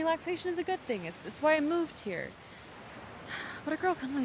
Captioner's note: sighs